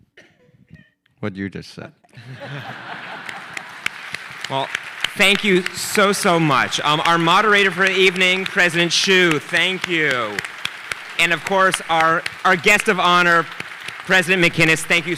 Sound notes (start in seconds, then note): 2.1 audience chuckling; 3.6 audience applauding